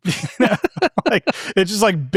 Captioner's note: participants laughing